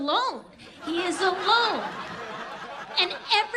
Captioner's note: audience laughs